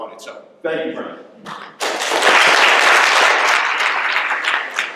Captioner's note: applause